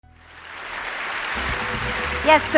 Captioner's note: audience applause